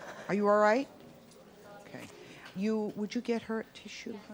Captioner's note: weeps